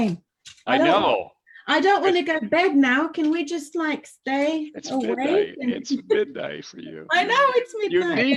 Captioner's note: laughs